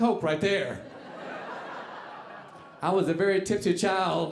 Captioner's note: audience laughing